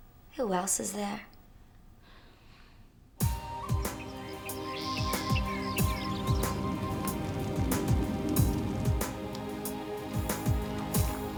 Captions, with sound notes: Who else is there? (Dal sighs) (hip-hop music)